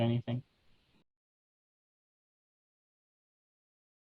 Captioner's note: silence